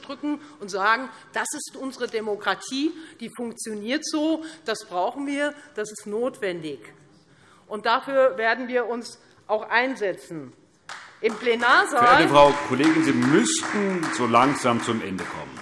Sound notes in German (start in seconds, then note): 10.9 Beifall Freie Demokraten